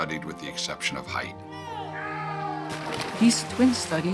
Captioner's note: shouting